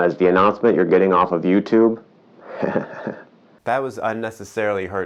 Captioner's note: chuckling